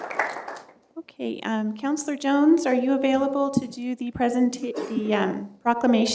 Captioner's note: applause